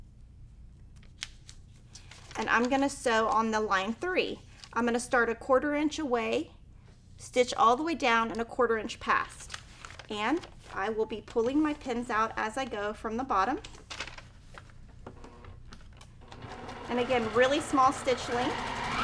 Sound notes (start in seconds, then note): 16.2 sewing machine clunking